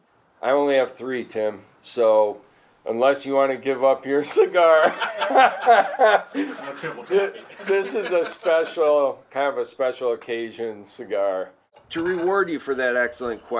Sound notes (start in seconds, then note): 4.3 laughter